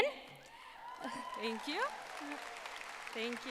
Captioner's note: audience applauding